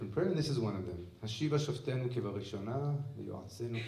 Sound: speaking hebrew

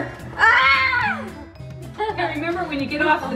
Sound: yells

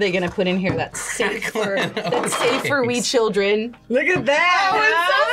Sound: laughs

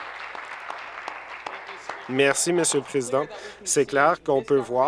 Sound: applause

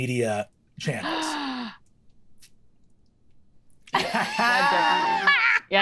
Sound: players gasping in shock

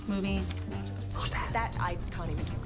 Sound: whispers

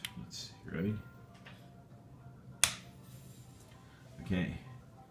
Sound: run switch clicks on

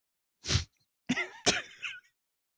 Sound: sniffs; both chuckling

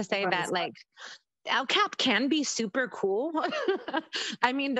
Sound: laughs

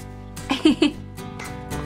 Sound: laughs

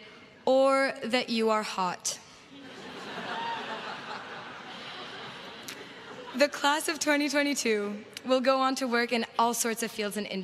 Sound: laughter

